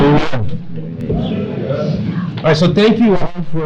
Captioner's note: audience chatter